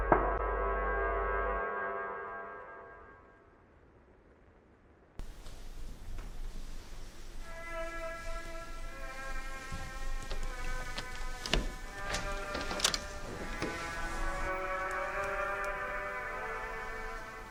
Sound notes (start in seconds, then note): 11.6 door opening; 11.6 dramatic music